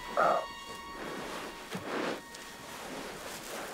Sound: grunts

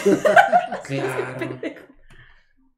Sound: laughter

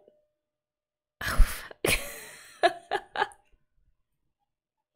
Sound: laughs

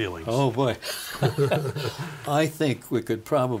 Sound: both laughing

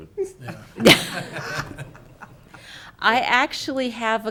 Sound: laughing

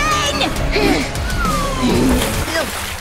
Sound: insert slow clapping in the background

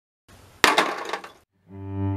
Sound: clatter

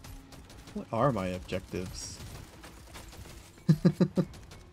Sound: laughs

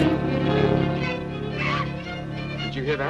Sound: laughs; bat screeches

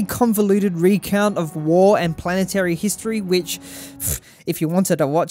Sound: scoffs

